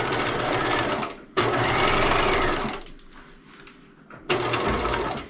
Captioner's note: sewing machine humming